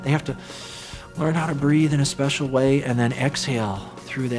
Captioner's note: inhales